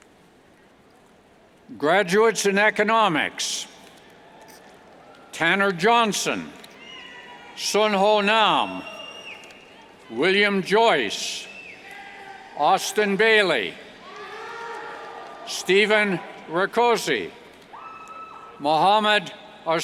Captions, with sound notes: Graduates in Economics Tanner Johnson, Sun Ho Nam, William Joyce, Austin Bailey, (cheers) Stephen Rakoczy, Muhammad Arsyandi,